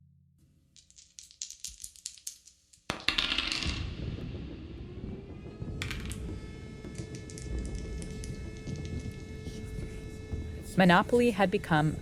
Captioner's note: soundbite of dice being rolled